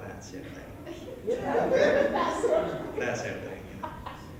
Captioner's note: laughs; laughter